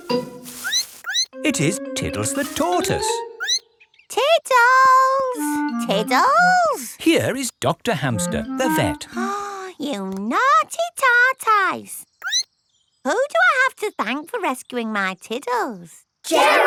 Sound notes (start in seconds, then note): 0.5 squeaks; 3.4 squeaks; 9.0 gasps; 12.2 squeaks